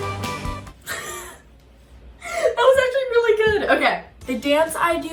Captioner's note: laughs